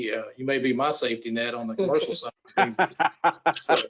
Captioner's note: laughs